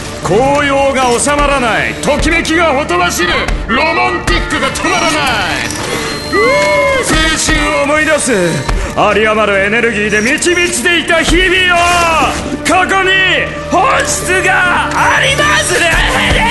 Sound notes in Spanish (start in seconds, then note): 2.5 voz robótica; 11.4 tela rompiéndose